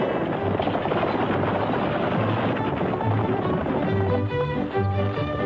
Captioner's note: horse hooves